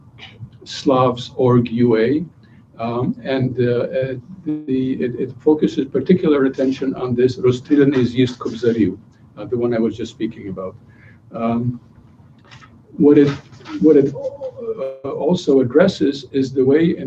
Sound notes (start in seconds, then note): 7.5 non-english speech